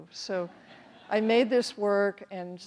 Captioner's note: audience laughs